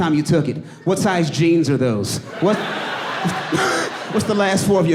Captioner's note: audience laughing